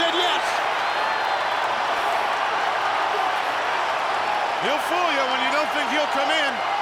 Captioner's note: applause